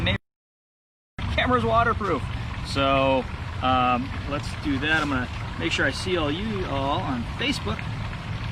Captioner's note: audio skips